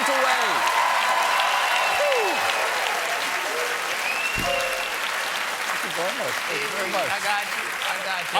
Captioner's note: applause